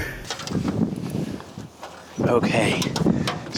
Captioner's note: wind blows in backround